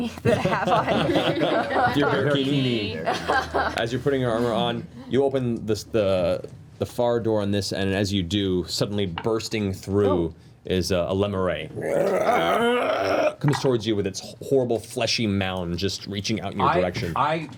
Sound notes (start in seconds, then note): 1.9 laughter; 11.7 groans